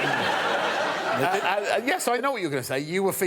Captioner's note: laughter